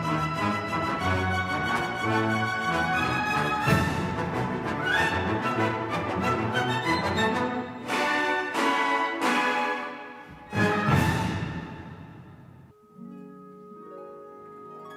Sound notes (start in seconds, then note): none